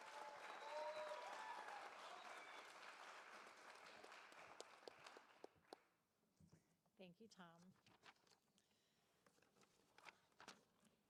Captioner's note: applause